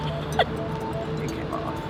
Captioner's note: laughter